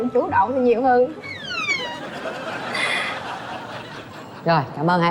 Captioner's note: sound effect + Laughing